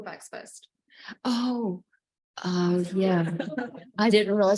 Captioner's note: panel laughing